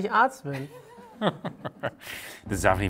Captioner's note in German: Kichern